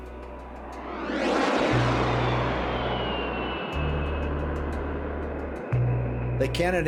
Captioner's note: plane roaring